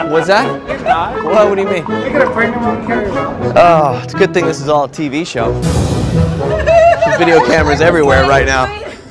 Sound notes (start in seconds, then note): 5.6 cymbals clang; 6.4 laughing